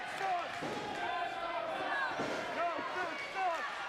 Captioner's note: crowd chanting